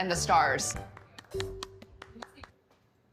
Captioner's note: clapping